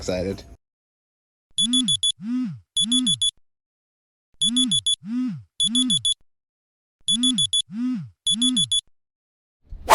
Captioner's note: alarm beeping